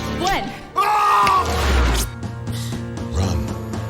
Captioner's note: shouting